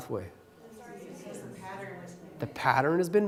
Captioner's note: chatter